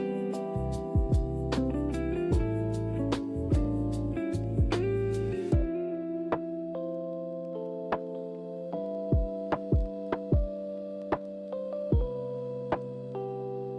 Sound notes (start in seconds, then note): none